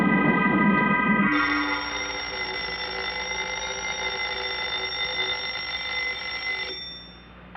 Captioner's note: alarm clock ring